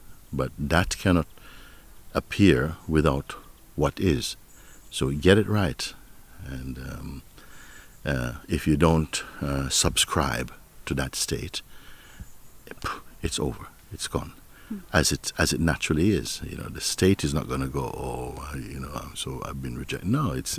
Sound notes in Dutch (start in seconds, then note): 11.5 ademt uit